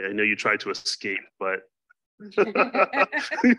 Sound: laughs

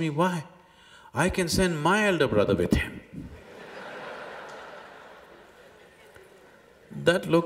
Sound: laughter

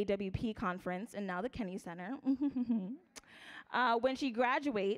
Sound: laughs

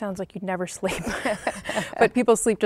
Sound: laughing

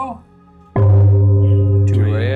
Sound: gong chiming

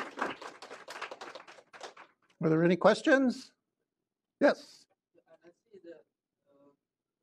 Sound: applause

